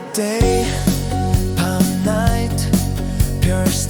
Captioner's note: bam